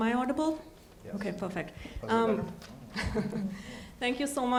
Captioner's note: chuckles